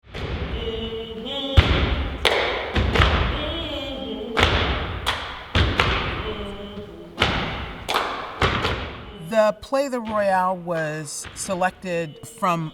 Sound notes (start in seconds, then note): 0.5 stomping in rhythm; 7.0 humming